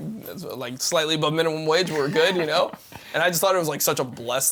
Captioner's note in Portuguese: risos